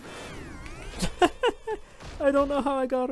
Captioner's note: laughs